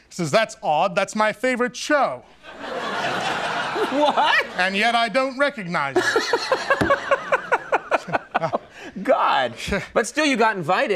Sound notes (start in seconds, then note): 2.4 audience laughs; 5.9 Conan laughing